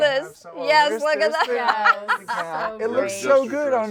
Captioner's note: laughs